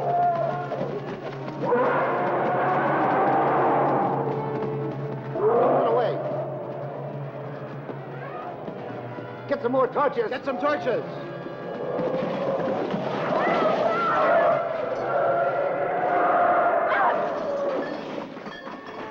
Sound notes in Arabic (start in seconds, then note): 0.0 تزأر الأفيال وتزمجر; 0.0 موسيقى درامية; 11.8 أصوات الدمار والضجيج; 16.6 اصوات الدمار